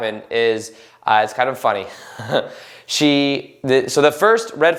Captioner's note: laughs